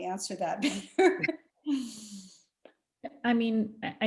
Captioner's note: laughs